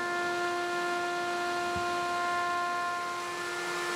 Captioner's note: whirring